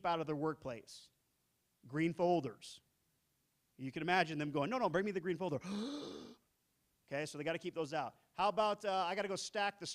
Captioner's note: inhale